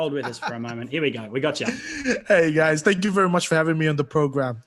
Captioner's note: laughs